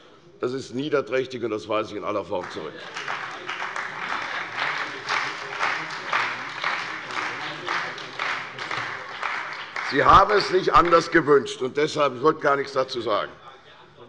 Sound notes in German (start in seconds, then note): 2.4 Beifall bei der CDU und dem BÜNDNIS 90/DIE GRÜNEN